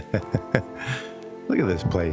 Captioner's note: laughs